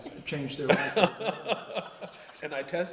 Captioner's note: laughter